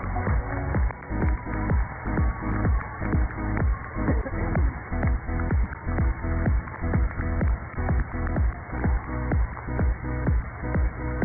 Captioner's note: cheers and applause